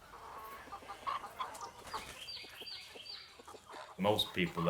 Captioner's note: chickens clucking